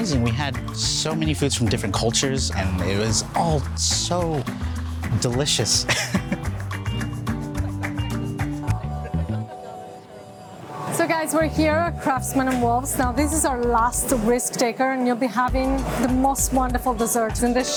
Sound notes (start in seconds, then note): 5.6 laughs; 7.1 Latin music